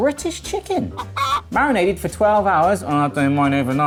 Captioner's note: chicken clucks